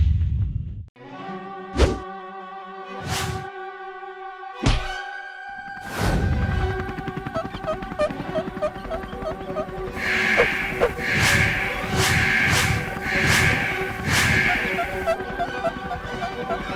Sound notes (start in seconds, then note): 9.9 warning Sound